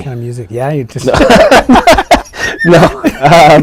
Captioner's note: laughter